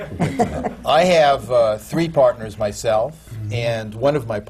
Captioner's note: laughter